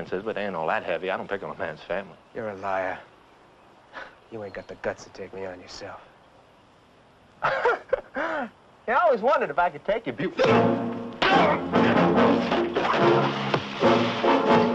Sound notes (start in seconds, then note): 7.4 laughing; 10.4 dramatic music